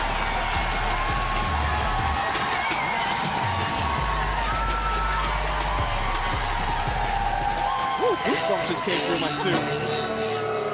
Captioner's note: audience cheers